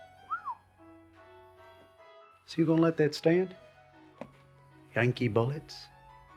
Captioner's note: whistles